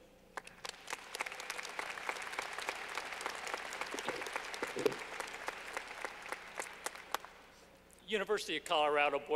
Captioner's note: clapping